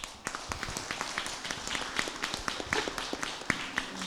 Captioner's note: applause